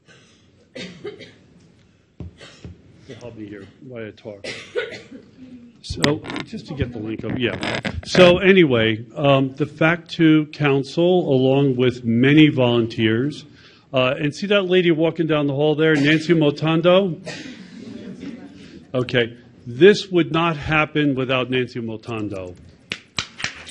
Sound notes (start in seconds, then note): 0.0 audience member coughing; 17.6 audience chatter; 22.9 audience applauds; 23.0 applauds